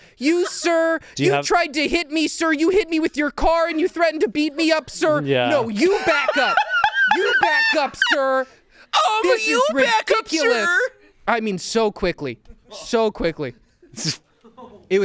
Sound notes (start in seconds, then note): 5.6 laughs; 10.6 laughs